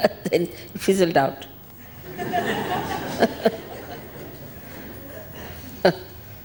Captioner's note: laughs; all laugh